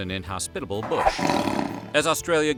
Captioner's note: roar